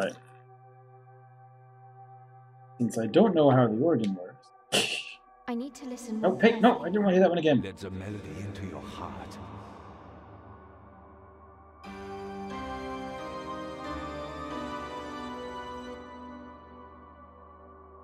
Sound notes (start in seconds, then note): 4.6 laughs softly; 11.8 organ plays G C D♯ D B